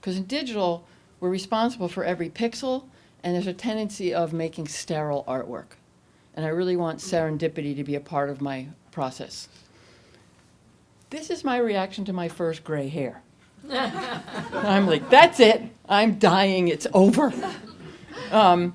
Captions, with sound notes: because in digital, we're responsible for every pixel and there's a tendency of making sterile artwork. I really want serendipity to be a part of my process. This is my reaction to my first gray hair. (audience laughs) I'm like, that's it, I'm dying, it's over.